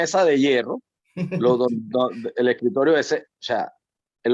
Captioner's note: laugh